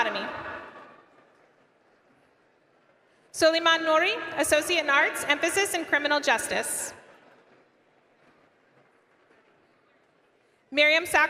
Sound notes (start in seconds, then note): none